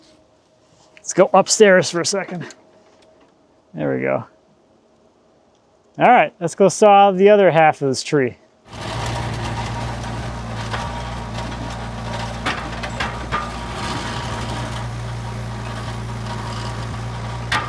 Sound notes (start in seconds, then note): 8.6 engine humming; 12.6 wood clunking; 14.3 engine humming continues